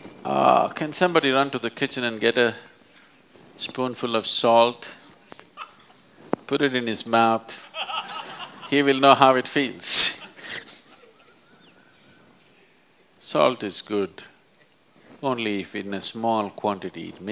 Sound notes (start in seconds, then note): 7.6 laughter; 12.3 laughs